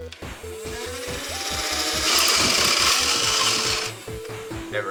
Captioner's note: full auto flywheeler sounds